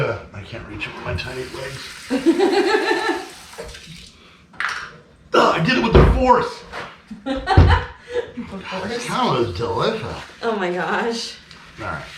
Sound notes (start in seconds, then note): 7.2 laughing